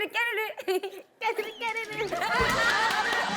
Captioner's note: giggles; heehee